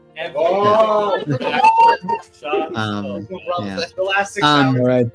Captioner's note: cheers